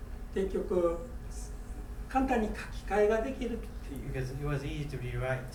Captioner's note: speaking in foreign language